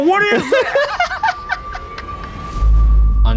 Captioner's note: laughing